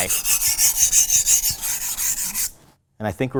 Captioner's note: knife scrapes